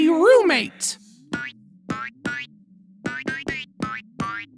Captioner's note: finger bouncing